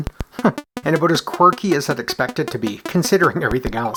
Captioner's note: chuckles